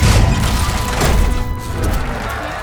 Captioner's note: crowd cheering, applauding